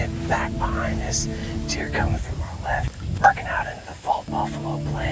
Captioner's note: whispering